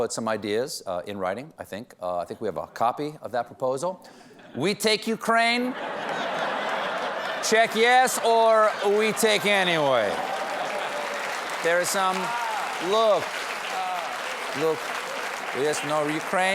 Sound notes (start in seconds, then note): 2.1 russian accent; 10.8 applause